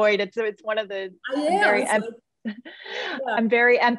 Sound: murmurs

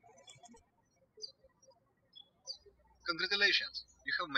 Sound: birds chirping

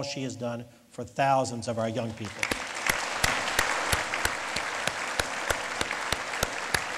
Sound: lead applause

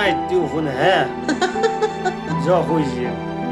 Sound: lauhghing

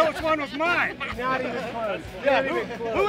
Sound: laughter

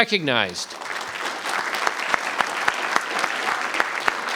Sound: audience applauding

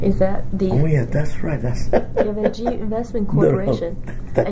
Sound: laughs

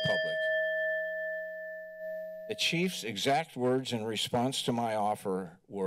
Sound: bell rings

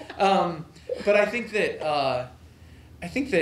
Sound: laughter

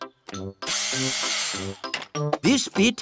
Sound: whirring

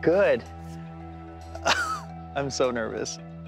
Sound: laughs

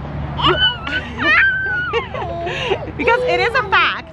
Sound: squeals

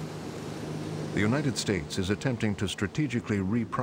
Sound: voiceover

